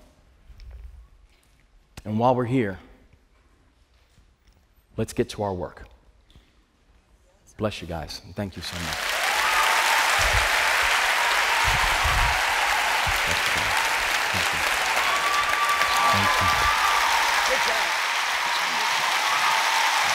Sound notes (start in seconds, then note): 8.6 cheers and applause